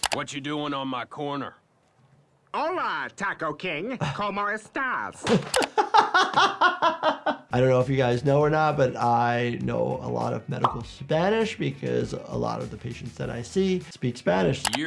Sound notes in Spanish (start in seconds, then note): 5.2 se ríe